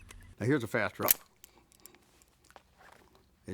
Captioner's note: gun clicks